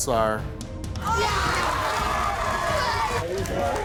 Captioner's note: screaming